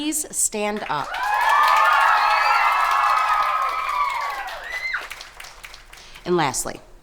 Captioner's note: campers applauding; campers cheering